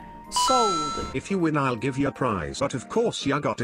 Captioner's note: electronic Voice